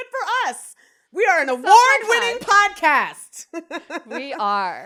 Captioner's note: giggles